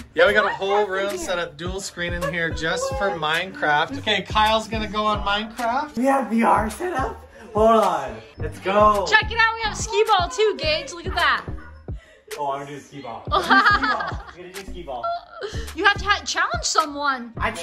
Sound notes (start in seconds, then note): 13.3 Jinger laughing